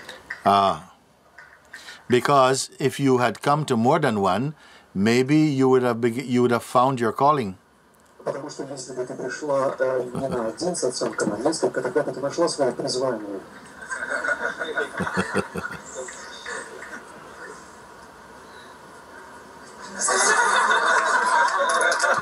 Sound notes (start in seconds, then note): 13.8 laughter and clapping